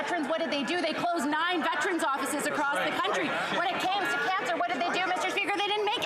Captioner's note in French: voix de l'interprète